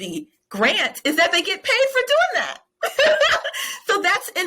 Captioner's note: laughing